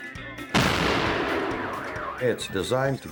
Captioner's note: dynamite explodes